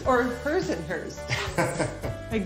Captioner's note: laughs